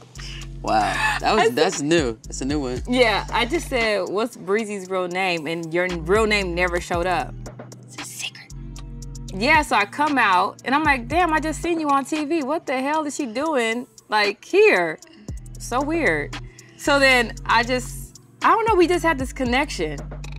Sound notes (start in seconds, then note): 7.8 whispers